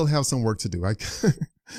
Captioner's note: laughs